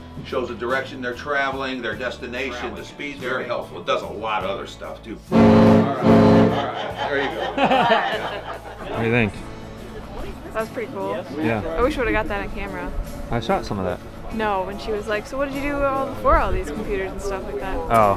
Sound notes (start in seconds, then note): 5.3 horn blows; 5.8 laughs